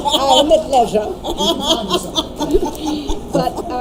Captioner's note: laughing